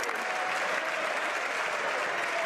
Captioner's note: some Applause